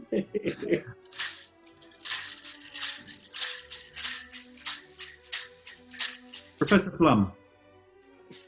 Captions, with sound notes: [KEY JINGLES SLEIGH BELLS] Professor Plum.